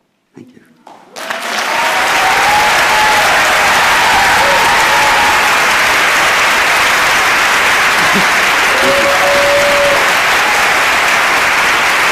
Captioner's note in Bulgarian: Ръкопляскания